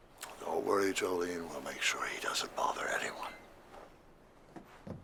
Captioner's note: none